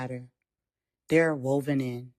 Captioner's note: pause